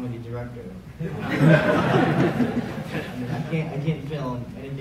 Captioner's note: crowd laughing